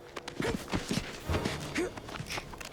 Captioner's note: soldiers scuffling; tense music